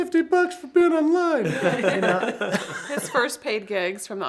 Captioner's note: everybody laughs